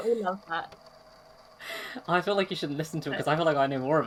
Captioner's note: laughs